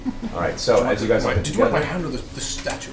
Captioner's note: all laugh